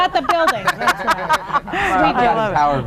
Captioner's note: laughter